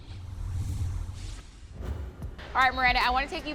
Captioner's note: scene whooshing